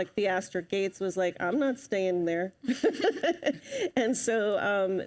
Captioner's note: laughs